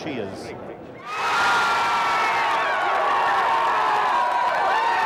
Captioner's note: crowd cheering wildly